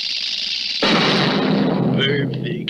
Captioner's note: crash!